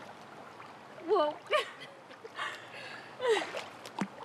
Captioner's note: chuckles